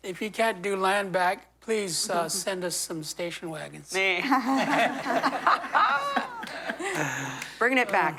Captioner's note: laughter